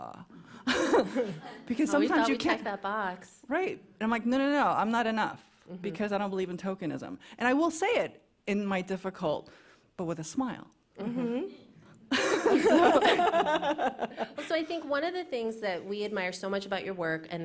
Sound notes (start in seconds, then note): 0.7 laughs; 12.1 laughter